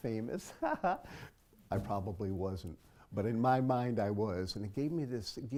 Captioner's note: laugh